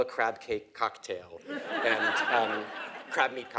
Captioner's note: laugh